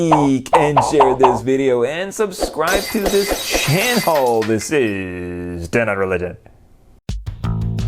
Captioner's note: popping noises; glass breaking